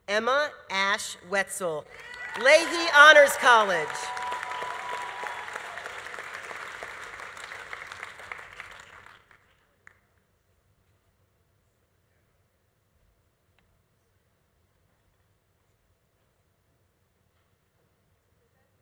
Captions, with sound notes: Emma Ash Wetsel, Leahy Honors College. (audience applauding) (audience cheering)